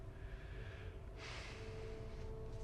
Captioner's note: sighs